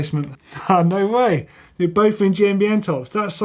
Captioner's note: laughing